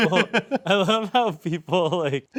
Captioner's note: laughing